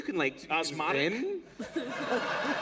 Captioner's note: laughter